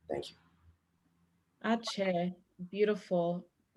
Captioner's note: non-english speech